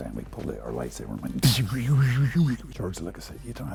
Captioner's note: imitates whooshing sounds